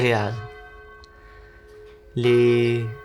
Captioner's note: a bell tower rings